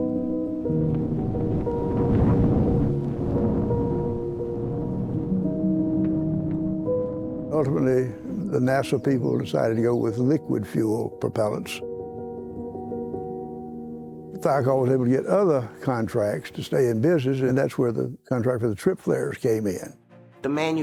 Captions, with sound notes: [explosion blasts] [gentle music] Ultimately, the NASA people decided to go with liquid fuel propellants. Thiokol was able to get other contracts to stay in business and that's where the contract for the trip flares came in.